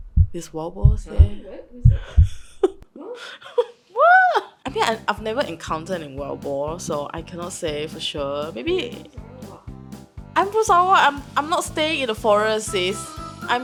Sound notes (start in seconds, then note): 2.3 laughing in denial